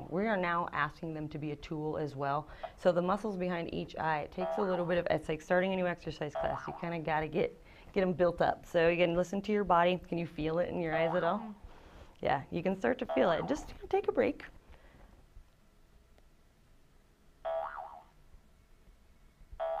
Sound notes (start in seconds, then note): 4.4 boing; 11.5 boing; 17.4 boing